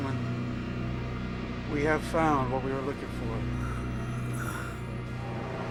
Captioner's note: snoring